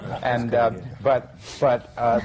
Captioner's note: laughs